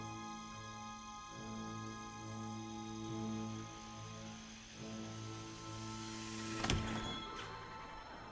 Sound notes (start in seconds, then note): 1.1 rain pelting